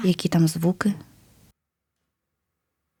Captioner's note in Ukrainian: пауза